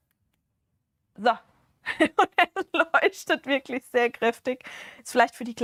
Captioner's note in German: Gelächter